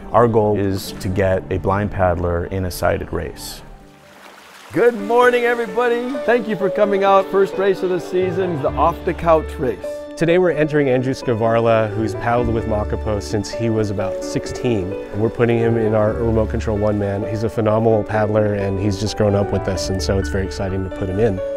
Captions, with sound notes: our goal is to get a blind paddler in a sighted race. [ water splashing ] Good morning everybody. Thank you for coming out. First race of the season is the Off Da Couch Race. Today we're entering Andrew Skvarla who's paddled with Makapo since he was about 16. We're putting him in our remote control one-man. He's a phenomenal paddler and he's just grown up with us and so it's very exciting to put him in.